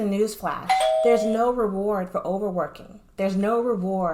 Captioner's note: notification sound